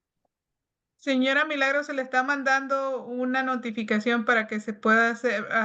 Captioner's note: speaking Spanish